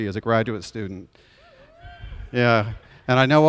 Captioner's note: audience cheers